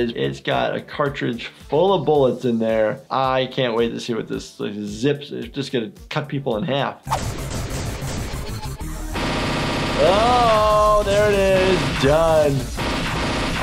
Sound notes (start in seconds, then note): 7.1 gun intense shooting; 7.1 active music; 12.2 gun intense shooting